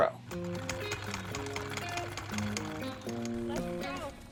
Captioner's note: sewing machine whirring